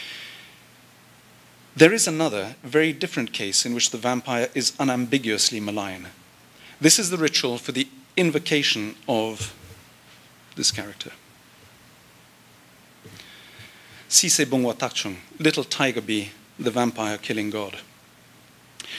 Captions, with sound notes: There is another very different case in which the vampire is unambiguously malign. This is the ritual for the invocation of this character. [NON-ENGLISH SPEECH] Little tiger-bee, the vampire killing god.